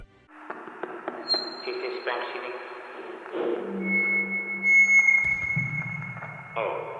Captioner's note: tap-tap-tap; blows into microphone